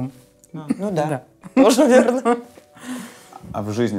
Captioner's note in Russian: смеются